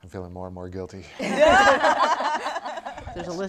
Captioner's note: laughter